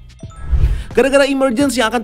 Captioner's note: transition sound